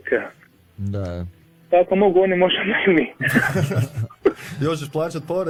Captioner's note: laughter